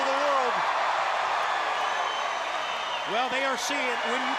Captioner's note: crowd cheering